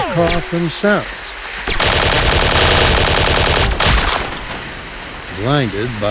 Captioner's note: automatic weapons fire